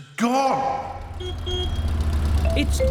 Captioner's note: horn honks